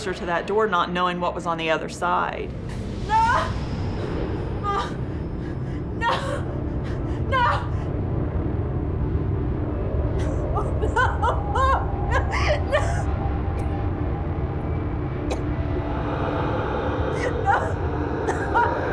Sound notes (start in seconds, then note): 3.4 gasps; 10.2 crying; 12.0 coughing